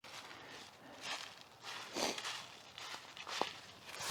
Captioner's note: footsteps